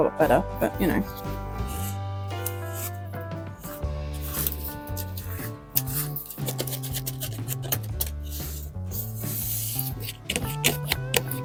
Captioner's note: scraping, rustling and crinkling continues